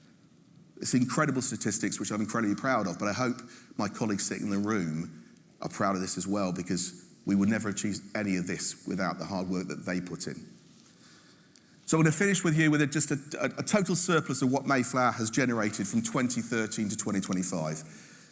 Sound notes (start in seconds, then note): none